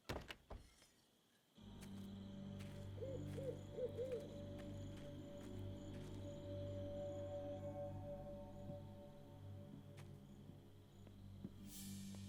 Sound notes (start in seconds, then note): 2.3 mysterious music; 2.8 owl hooting